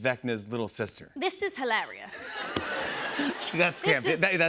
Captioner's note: laughter